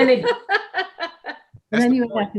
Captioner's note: laughing